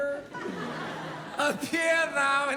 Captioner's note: audience laugh